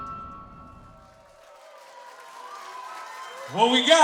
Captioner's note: cheering